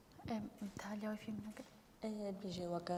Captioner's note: speaking kurdish